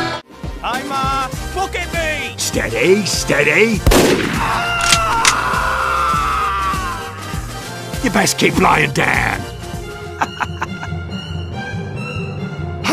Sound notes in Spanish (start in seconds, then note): 4.4 El Scout grita con dolor; 10.0 Risa del Spy